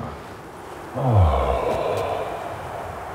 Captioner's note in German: Tiefes Ausatmen